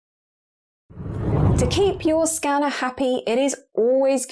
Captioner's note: video effect whooshes